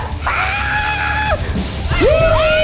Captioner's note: screams; everyone laughs